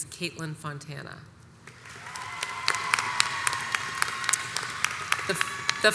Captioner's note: audience cheers and applauds